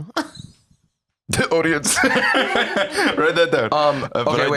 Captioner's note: laughs